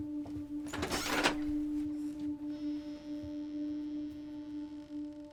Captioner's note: door creaks